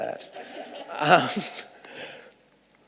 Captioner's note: laughs